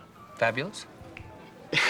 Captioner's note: laughs